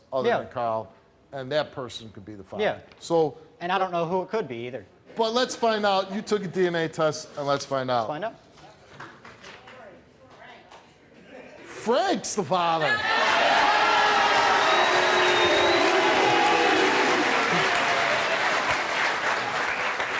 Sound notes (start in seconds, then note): 12.8 audience cheering; 13.0 audience boo's; 16.9 audience clapping